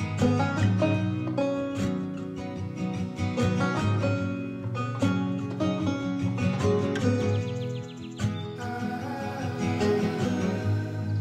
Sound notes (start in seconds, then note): 7.3 birds chirping begins